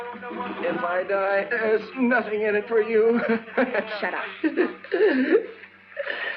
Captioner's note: chuckles